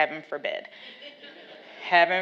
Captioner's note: laughs